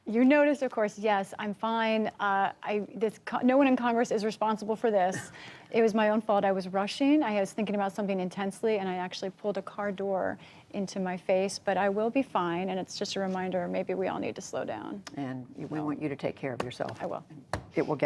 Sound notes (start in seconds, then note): 5.1 laughter